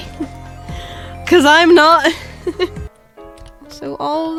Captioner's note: laughs